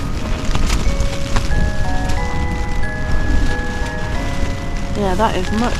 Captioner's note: light rain & wind